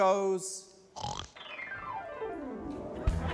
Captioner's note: snorts; comical music